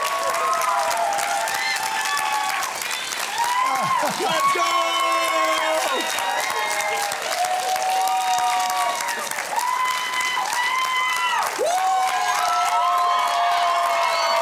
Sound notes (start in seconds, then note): 3.7 Gerry laughs; 11.5 cheering